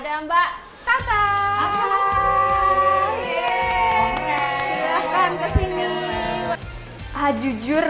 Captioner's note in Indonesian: hand claps